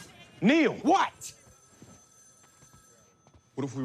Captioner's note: telephone rings